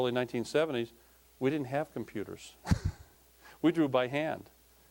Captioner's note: chuckling